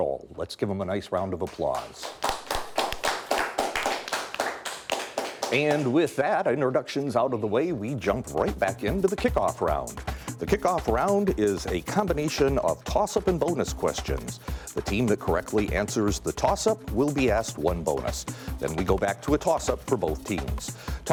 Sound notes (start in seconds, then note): 1.4 applause; 9.9 upbeat music